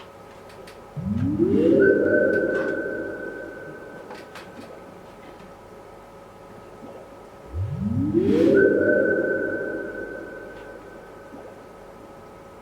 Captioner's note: swelling bubble sounds, echoing and mysterious